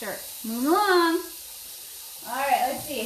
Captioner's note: water gushing